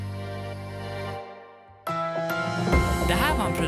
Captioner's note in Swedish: Whoosh